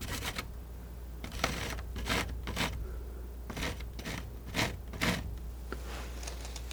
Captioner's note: scratching; scratching